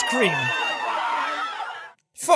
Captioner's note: screaming